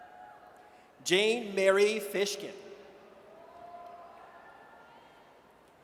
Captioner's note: audience cheers